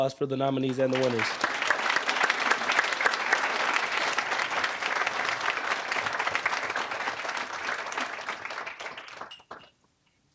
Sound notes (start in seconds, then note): 2.0 applause